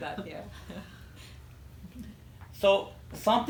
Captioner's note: laughter